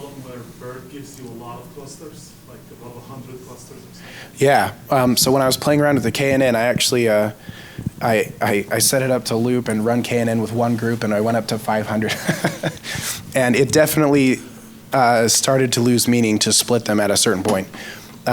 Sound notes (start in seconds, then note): 12.0 laughs